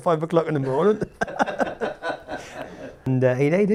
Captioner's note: laughs